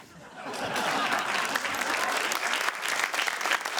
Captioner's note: laughter, applause